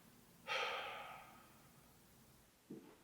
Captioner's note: Jacob sighs